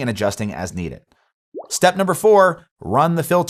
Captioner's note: graphics pop